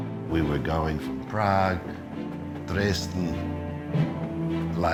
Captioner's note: voiceover